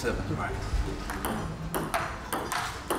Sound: tapping

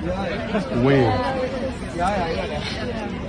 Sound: sounds of a crowd

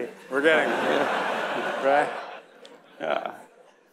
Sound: audience laughing

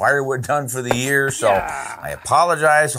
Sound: log splitting sound

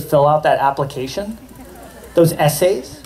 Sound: laughter

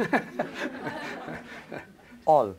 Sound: laughter

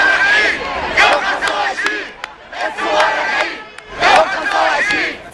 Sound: chants

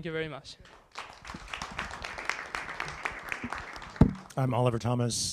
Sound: applause

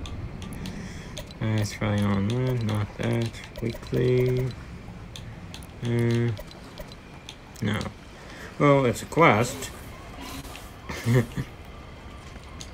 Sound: laughs a little

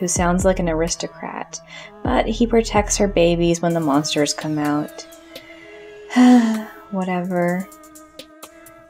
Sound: sigh

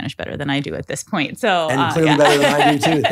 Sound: laughing

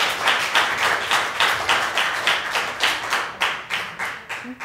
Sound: applause

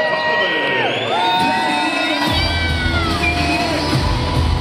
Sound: crowd cheering

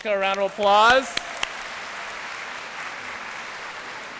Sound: applause

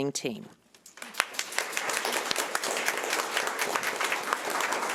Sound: audience applauding

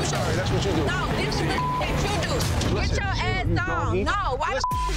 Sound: beep

